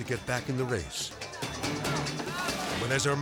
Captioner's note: dramatic music; people yelling